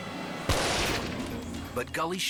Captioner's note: rifle blasts